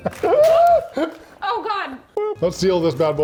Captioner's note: laughs; groaning